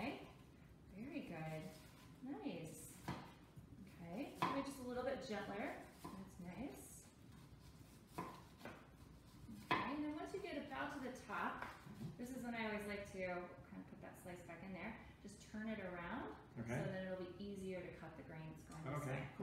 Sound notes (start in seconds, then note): 8.1 chopping